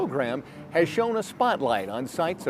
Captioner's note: atmosphere humming